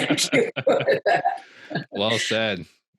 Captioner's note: laughing loudly